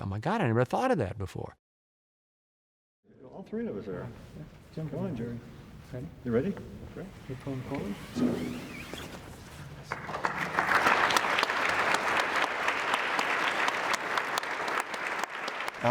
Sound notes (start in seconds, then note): 7.1 cloth being pulled off of bust; 9.8 applause